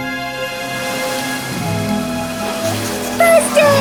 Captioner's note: leaves rustle